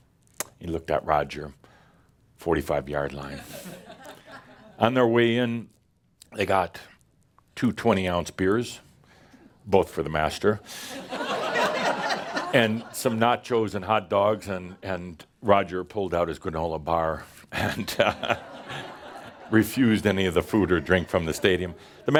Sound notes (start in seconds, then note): 10.8 laughter; 17.6 more laughter